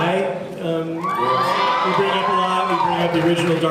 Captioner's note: cheers